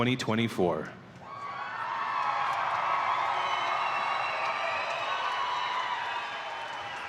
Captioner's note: audience cheering and applauding